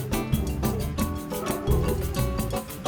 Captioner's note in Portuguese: cachorros latindo